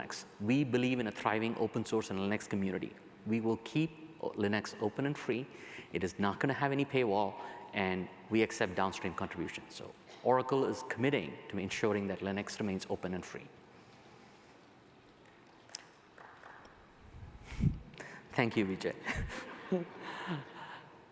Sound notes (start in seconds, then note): 16.2 applause